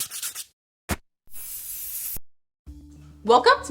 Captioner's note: spray can rattling